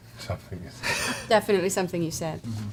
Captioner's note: laughs